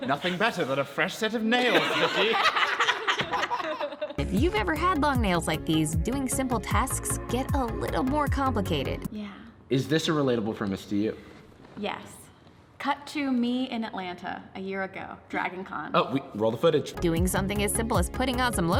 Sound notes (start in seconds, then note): 1.5 group laughs